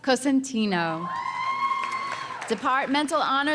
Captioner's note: audience cheering